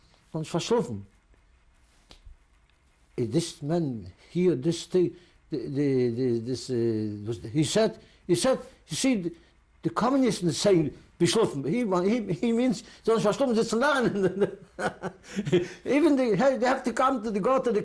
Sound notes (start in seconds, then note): 0.1 non-english; 10.4 non-english; 12.4 non-english speech; 14.0 laughs